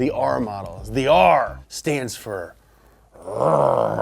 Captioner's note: growling